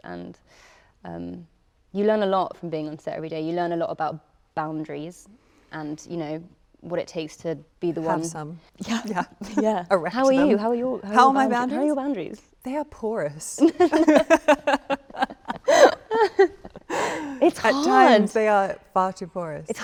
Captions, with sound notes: And you learn a lot from being on set every day. You learn a lot about boundaries and what it takes to be the one- - Have some. - Yeah. - How are you? How are your- - How are my boundaries? - How are your boundaries? - They are porous. (both laughing) - It's hard. - At times, they are far too porous.